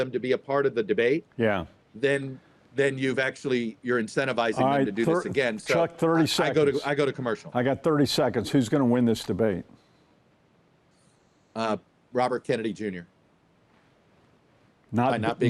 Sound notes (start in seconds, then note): 1.5 pat